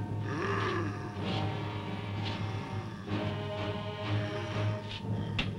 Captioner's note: thrilling music; Popoca growling